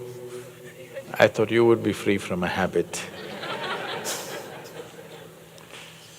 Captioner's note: laughter